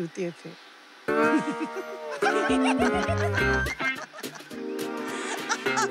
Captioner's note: All laughing